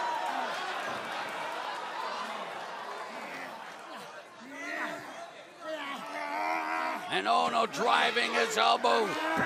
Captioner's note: crowd chatter